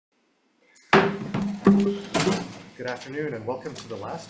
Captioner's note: gavel bangs